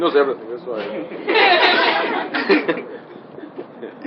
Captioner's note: laughter